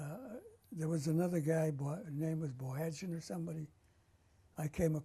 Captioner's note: armenian